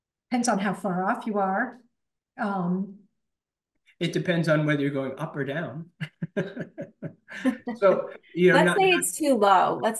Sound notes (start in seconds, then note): 5.9 laughs